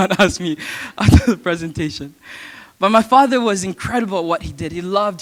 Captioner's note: chuckle